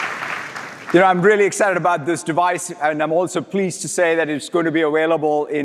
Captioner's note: applause